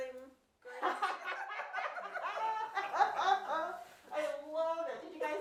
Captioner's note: laughs